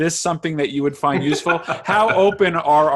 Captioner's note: laughs